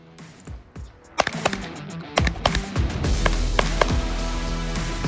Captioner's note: lively music; gunshots banging